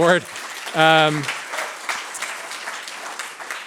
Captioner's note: applause